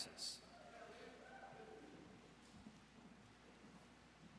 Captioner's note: audience cheers